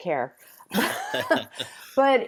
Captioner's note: both laugh